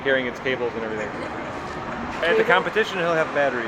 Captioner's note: crowd laughs